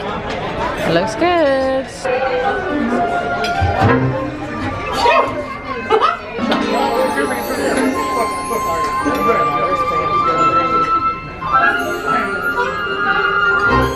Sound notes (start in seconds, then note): 1.7 upbeat music begins; 5.5 Mickey laughs; 6.6 magic sparkles; 9.2 upbeat music continues